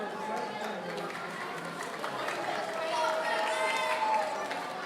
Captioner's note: audience cheering